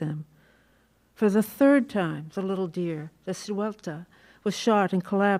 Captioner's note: non-english